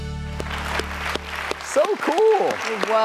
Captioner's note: audience applause